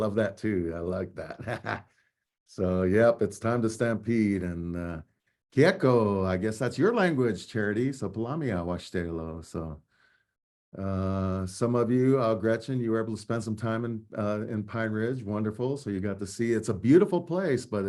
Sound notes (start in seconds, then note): 5.5 speaking native language